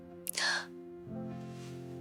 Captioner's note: sobbing sound